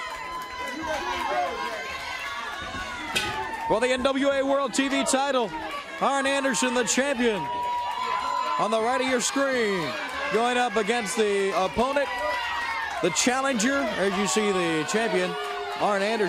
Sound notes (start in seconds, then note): 0.2 crowd cheering; 1.9 crowd chatter; 3.2 bell ringing